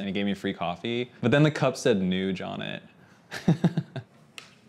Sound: chuckles

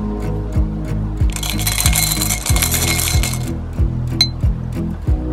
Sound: glass tinkling

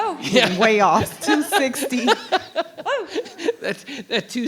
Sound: chuckles; attendees chuckle

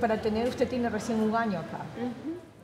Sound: speaking Spanish

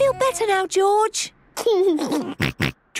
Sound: giggles

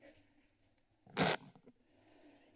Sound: mic glitch

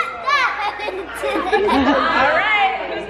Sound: laughs

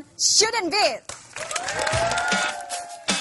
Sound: applause

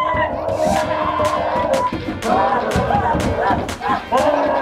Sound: both screaming

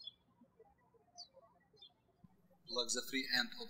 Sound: birds chirping

